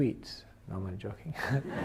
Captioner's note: laughs